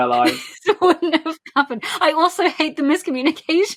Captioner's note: laughing